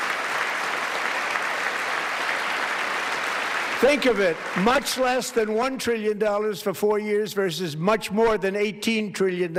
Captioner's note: applause